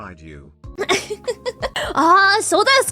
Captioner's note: laughs